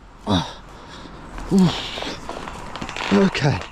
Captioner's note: grunting